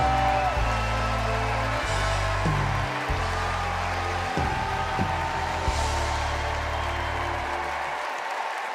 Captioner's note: cheers and applause